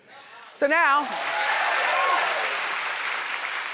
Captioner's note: applauding